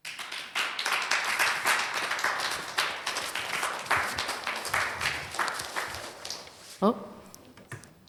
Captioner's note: applause